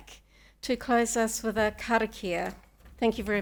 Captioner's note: speaking Maori